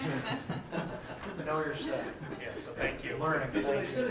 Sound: laughter

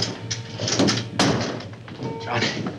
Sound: door slams

